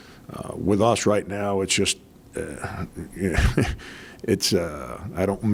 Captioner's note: chuckles lightly